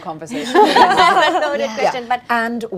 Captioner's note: laughing